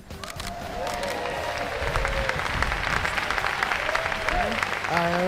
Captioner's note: audience cheering